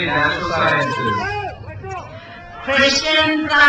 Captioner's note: crowd cheers